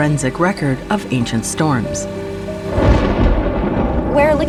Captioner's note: thunder rumbles